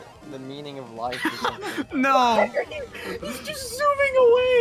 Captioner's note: laughs